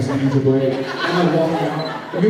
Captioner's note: laughs